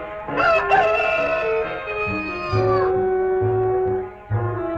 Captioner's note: Pete crowing